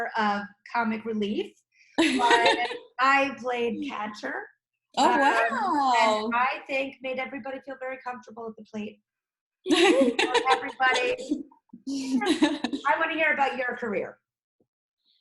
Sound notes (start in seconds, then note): 9.6 laugh